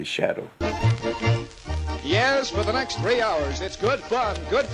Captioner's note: radio Announcer